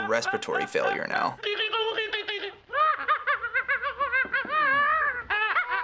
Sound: babbling off screen; woman laughs like monkey; more monkey-like laughter

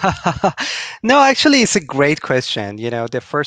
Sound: laughing

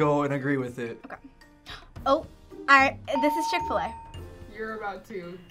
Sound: gasps

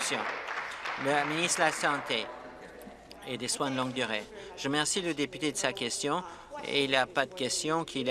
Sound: applause

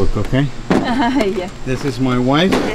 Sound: laughs

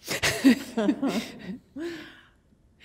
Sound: laughter

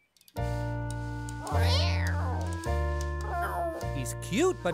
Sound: sad meowing

